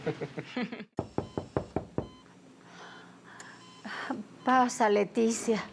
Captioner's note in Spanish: Toques en la puerta